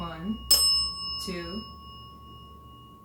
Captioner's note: bell dings